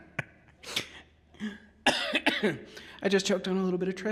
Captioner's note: coughing